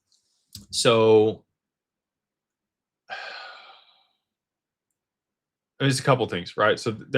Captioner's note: sighs